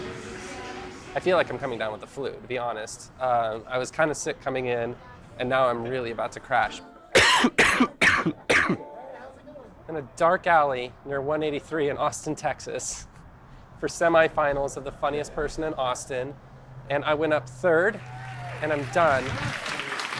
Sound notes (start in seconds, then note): 7.1 coughing and sneezing